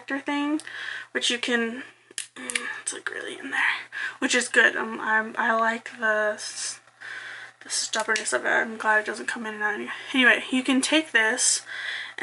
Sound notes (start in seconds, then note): none